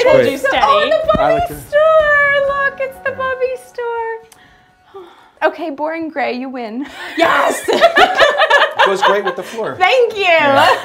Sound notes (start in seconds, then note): 7.0 laughter